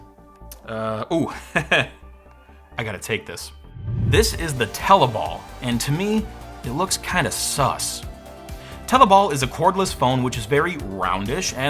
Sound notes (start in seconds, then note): 1.3 chuckles